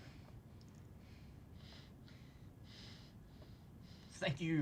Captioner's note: Sabrina panting